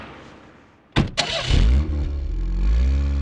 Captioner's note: car Engine Start